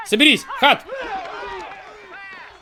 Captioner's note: grunting